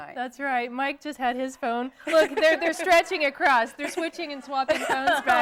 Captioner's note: �laughing�